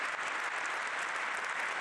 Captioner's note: applause